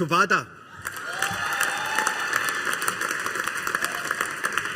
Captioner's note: audience applauding